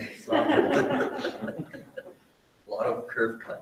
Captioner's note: group laughing